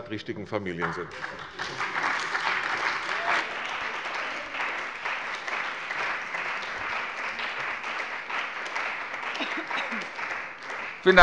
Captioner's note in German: Beifall bei der CDU und dem BÜNDNIS 90/DIE GRÜNEN